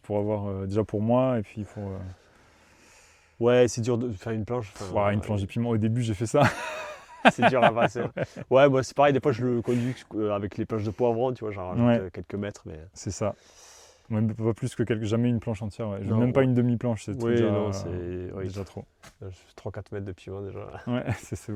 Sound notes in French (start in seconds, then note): 6.4 rires